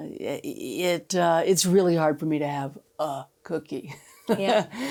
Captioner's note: laughs